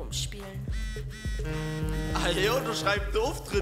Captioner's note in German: Klingelton